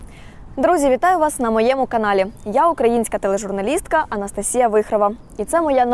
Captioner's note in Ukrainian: none